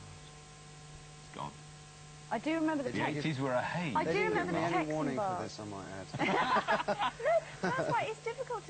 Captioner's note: laughing